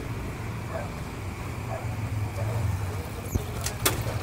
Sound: dog Barking

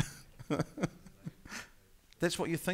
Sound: laughing

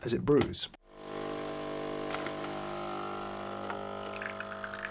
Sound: machine whirring

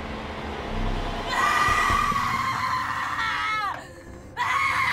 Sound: screaming

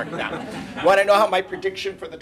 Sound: laughter

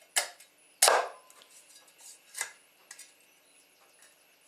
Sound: chopping chicken

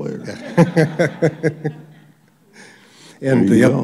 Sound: laughter

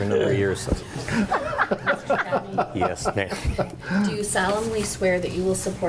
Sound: board members laugh

